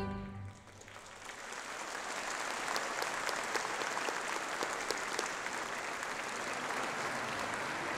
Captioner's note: applause